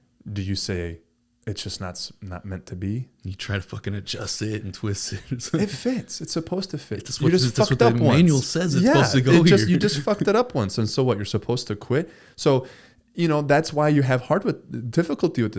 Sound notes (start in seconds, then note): 5.1 laughs